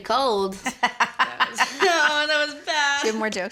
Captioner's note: laughter